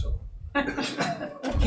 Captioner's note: laughter